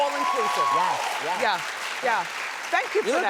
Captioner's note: applause